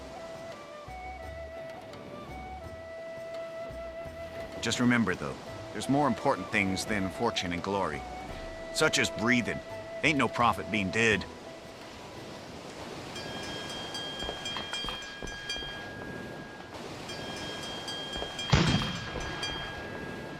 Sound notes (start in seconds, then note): 13.0 ship's warning bell ringing; 18.5 cannon fire